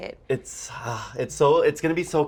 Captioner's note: sighs